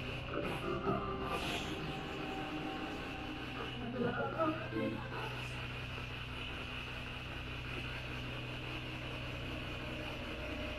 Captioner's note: radio noise from the spirit box